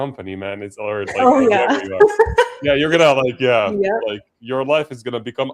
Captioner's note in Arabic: ضحك